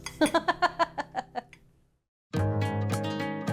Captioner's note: laughs; gentle music